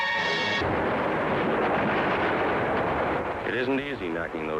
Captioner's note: soft dramatic music; artillery firing